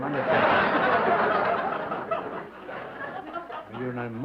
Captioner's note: laughter